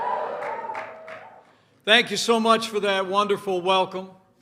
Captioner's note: applause